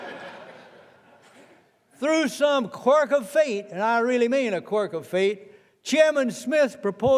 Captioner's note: laughter